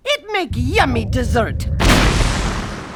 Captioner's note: explosion